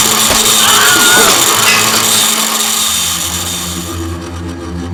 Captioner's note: saw whirring; man screaming; tense music